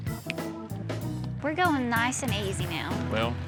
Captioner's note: snaps fingers